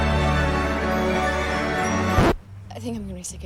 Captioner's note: record scratches, music stops